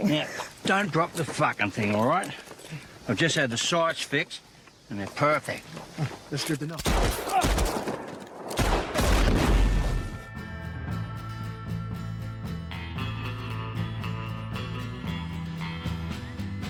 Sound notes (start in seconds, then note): 6.8 gunshots banging; 8.5 explosion banging; 10.2 western guitar music